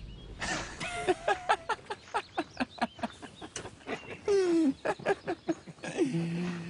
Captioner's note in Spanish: Risas